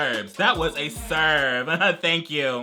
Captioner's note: chuckles